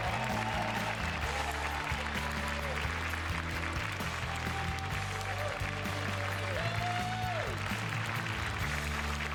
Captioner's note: cheers and applause